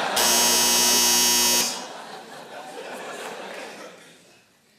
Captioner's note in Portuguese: campainha